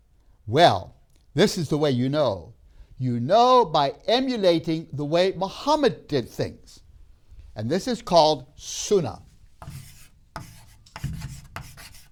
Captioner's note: chalk scrapes